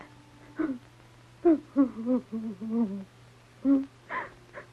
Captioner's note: lady crying